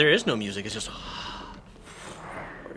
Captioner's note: haaaa